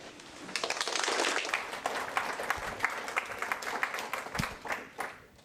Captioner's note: applause